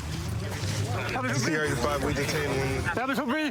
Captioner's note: excited chatter